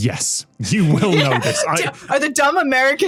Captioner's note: laughs